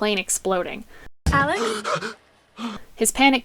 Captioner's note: gasping